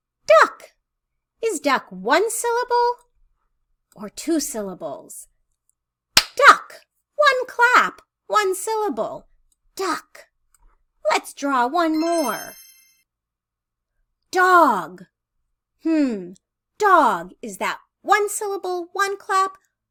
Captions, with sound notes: Duck. Is duck one syllable or two syllables? [clapping] Duck. One clap. One syllable. Duck. Let's draw one more. [chime sound] Dog. Hm. Dog. Is that one syllable, one clap?